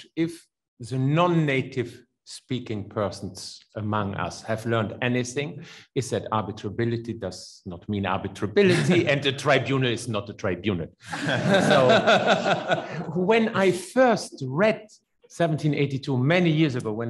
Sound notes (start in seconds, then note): 8.6 laughs; 11.0 laughs; 11.1 audience laughs